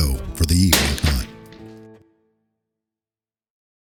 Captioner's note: gunshot